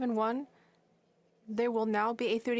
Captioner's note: speaking French